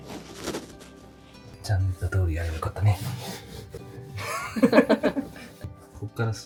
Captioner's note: laughs